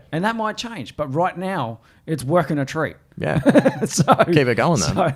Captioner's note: laughs